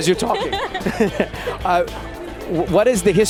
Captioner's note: both laugh